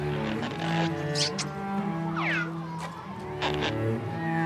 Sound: loud kissing

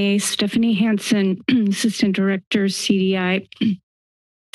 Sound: clears throat

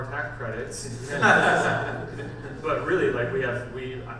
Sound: panel laughs

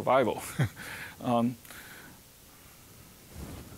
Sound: chuckling

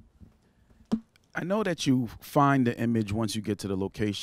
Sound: voiceover

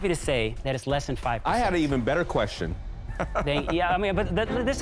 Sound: laughs

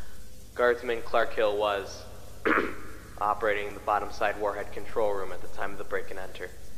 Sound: ahem

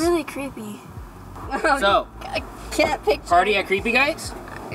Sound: laughing

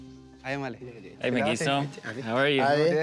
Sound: speaking foreign language

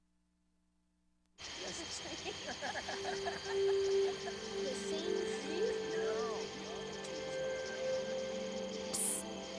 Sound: chuckles

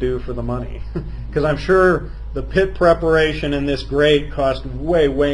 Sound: laughs

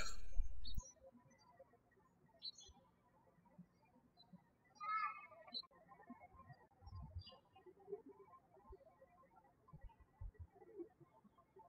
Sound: birds chirping

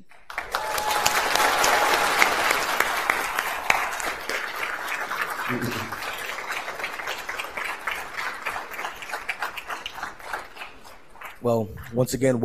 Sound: applause

